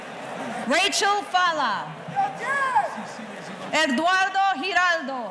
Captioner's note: audience member hollers